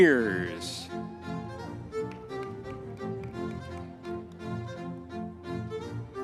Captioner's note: audience members cheering